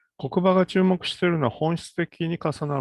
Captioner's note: speaks in Japanese